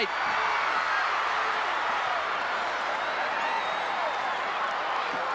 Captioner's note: audience cheering